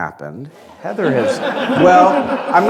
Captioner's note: laughter